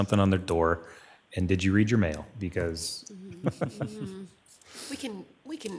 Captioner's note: laughs